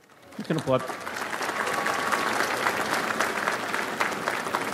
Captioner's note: audience applauds